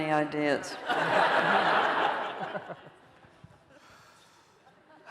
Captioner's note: laughter